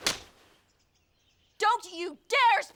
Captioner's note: slapping